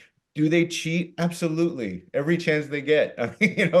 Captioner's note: laughing